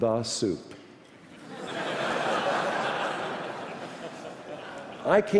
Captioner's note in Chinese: 笑聲